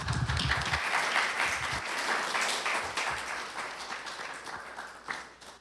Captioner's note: applause